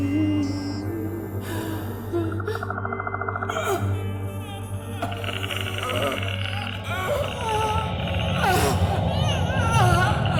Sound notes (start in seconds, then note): 3.5 Lori gasping; 3.5 creature chittering; 7.0 Lori choking